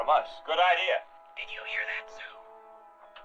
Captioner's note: whispering